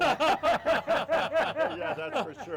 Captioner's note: laughing